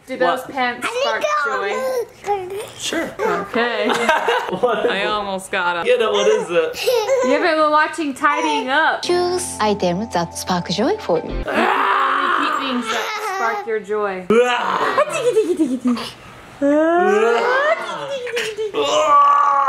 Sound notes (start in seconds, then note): 11.5 screams; 14.7 laughs